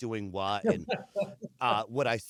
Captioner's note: laughter